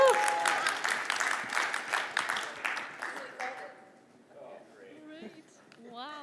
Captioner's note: applause